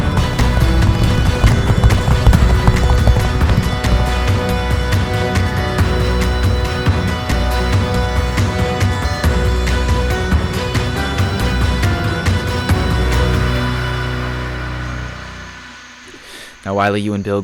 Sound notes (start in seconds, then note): 3.3 hooves clop; 3.3 moves into dramatic music